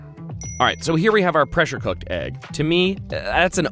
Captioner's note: dings